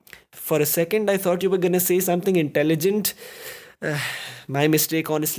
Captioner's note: inhale